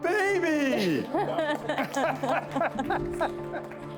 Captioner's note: laughing